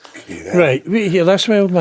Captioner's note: laughing